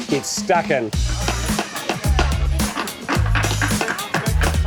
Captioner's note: hammering